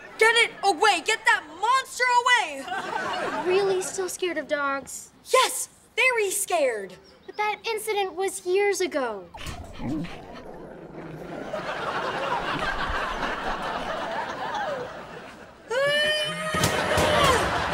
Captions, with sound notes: Get it away, get that monster away! Are you really still scared of dogs? Yes, very scared! But that incident was years ago! [growling] [laughing] [screaming]